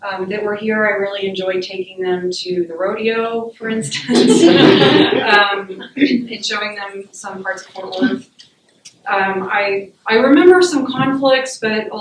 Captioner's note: laughter